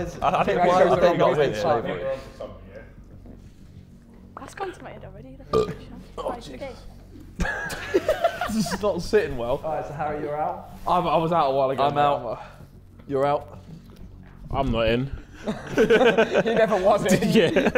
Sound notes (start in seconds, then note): 7.3 Sidemen laughing; 15.3 Sidemen laughing